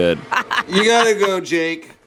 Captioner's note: laughs